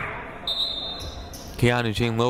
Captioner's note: whistle blows